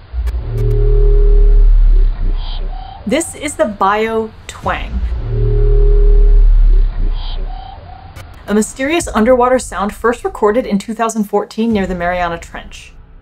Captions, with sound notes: (deep thrumming sound) This is the biotwang - (deep thrumming sound) a mysterious underwater sound first recorded in 2014 near the Mariana Trench.